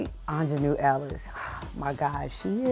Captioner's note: exhales